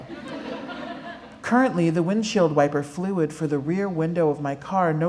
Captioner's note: laughter